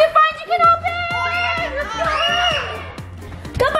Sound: screaming

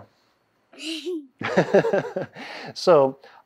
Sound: laughing

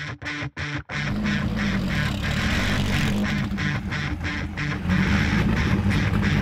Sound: rock music; car engine revving

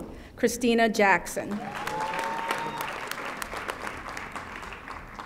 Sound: audience applauding

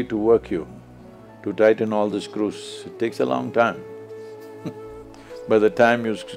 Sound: laughs

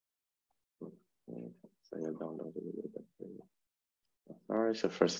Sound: speaking faintly

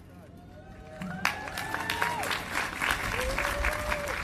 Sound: cheers and applause

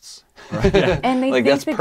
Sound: laughing

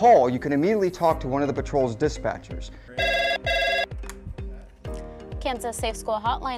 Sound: phone rings

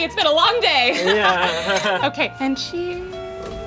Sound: laughs nervously

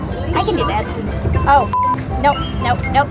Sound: beep

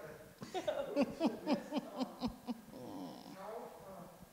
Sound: laughing

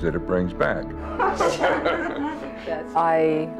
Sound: laughter

